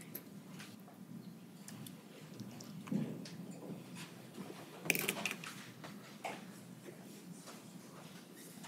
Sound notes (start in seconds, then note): 5.3 rustling